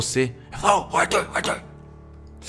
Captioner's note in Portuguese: sussurrando